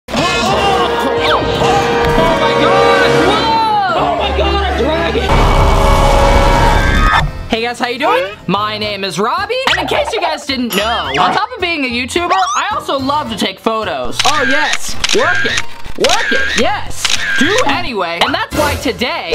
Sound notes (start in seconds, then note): 0.1 dramatic music; 5.4 roars; 17.0 camera clicks